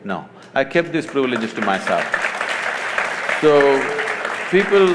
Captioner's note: applause